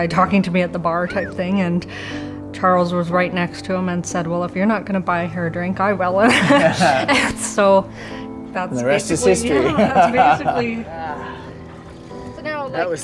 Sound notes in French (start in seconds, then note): 6.2 rient; 12.0 rient